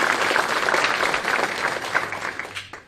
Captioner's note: applause